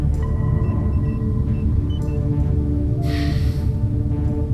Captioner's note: machines beeping